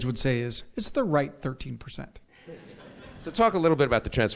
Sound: audience laughs

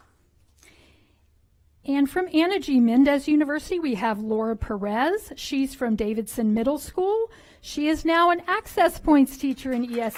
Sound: applause

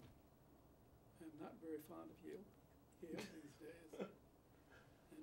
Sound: Bunny laughs

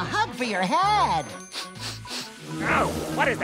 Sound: sniffing

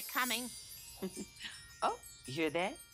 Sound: chimes

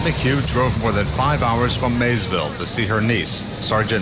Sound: nat sound--plane

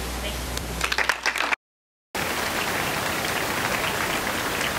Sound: applause

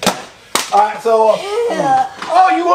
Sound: assistant sighs

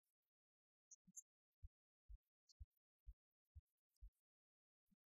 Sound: no speech

